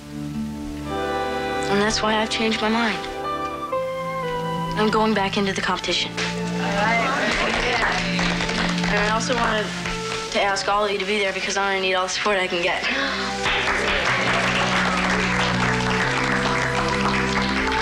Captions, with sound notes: And that's why I've changed my mind. I'm going back into the competition. (CLASS MUMBLES AND APPLAUDS) And I also wanted to ask all of you to be there, because I'm gonna need all the support I can get. (CLASS APPLAUDS)